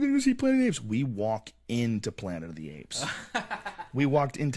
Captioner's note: laugh